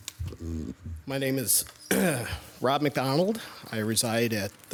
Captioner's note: clears throat